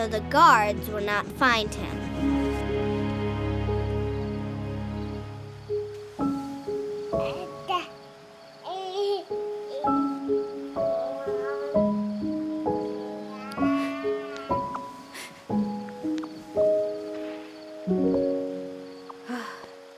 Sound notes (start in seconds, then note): 6.8 baby coos; 6.8 melancholy music